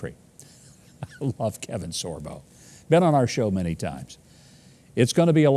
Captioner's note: chuckles